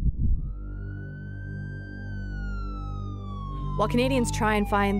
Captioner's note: siren sounding